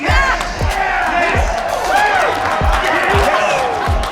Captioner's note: all cheering